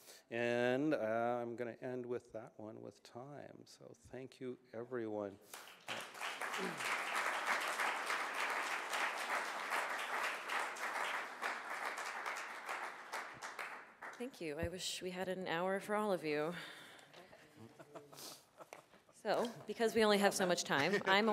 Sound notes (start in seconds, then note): 5.4 applause